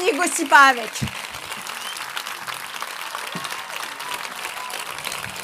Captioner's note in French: Applaudissements